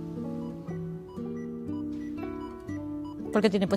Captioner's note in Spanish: Pitidos